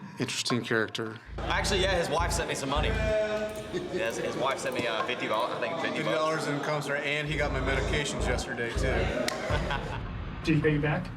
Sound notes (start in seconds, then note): 8.7 laughs